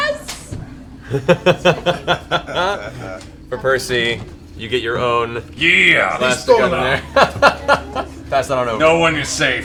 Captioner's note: laughs